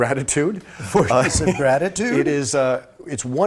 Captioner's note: laughter